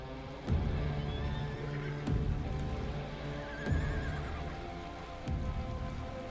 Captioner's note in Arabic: موسيقى متوترة; صهيل الخيول; موسيقى متوترة